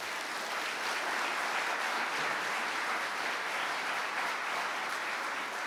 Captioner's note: audience clapping